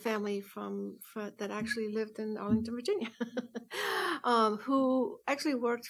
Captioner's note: laughs